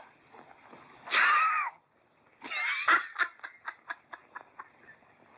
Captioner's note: laughing